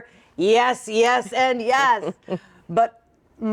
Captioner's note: chuckles